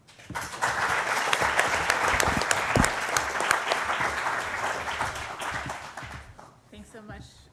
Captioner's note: applause